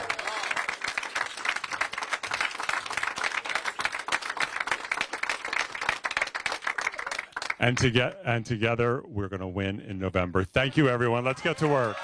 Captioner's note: applause